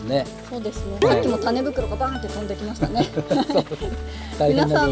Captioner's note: laughs